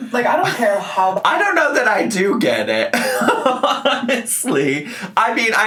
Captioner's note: laughs